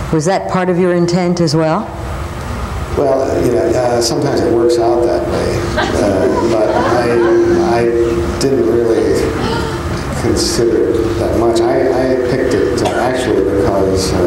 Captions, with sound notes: Was that part of your intent as well? - Well, you know, sometimes it works out that way, (audience laughing) but I didn't really (female audience member gasping) consider it that much. I had picked it to actually because,